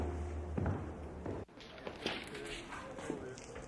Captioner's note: footsteps plod; people chatter